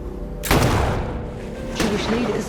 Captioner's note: gunshots blast